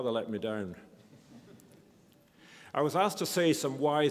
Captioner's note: audience laughs